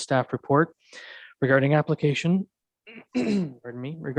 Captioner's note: clears throat